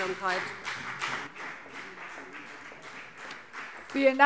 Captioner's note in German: Beifall BÜNDNIS 90/DIE GRÜNEN und vereinzelt CDU